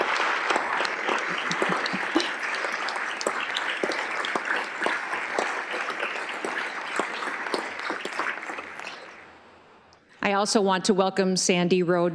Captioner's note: applause